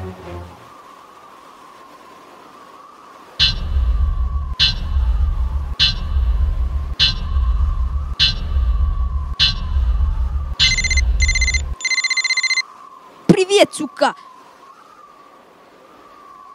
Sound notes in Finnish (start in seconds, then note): 0.1 voimakasta tuulta; 3.4 hakun ääniä; 3.4 voimakasta tuulta; 10.6 puhelin soi